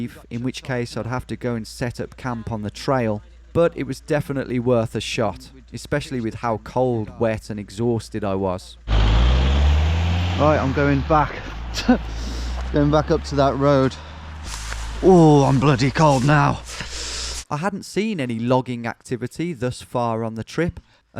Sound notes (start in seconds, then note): 8.8 van reverberating